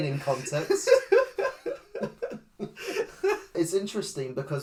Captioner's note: Laughing at Luna's knowledge